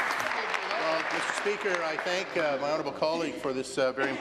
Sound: applause

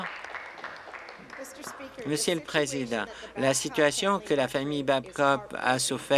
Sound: applause

